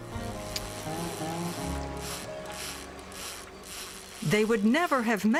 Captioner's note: reel grinding